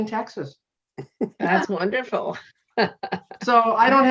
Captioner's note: chuckling